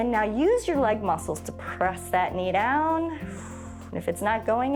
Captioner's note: exhales